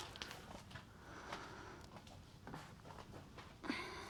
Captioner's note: Liz sighs